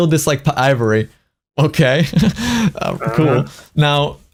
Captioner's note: laughs